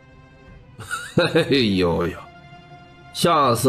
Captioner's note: chuckles mockingly